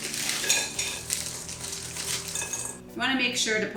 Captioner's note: bowl clinks